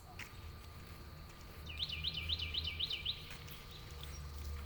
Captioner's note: birds chirping